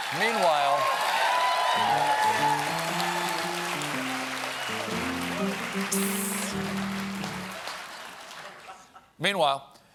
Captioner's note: cheers and applause